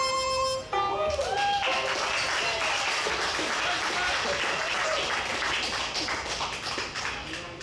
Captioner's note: audience cheers; audience applauds